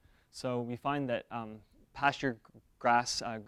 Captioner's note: none